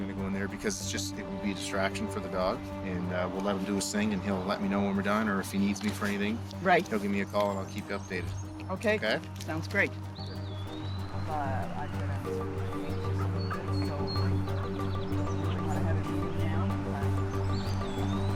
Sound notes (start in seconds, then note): 11.3 searchers chattering; 11.3 tense expectant music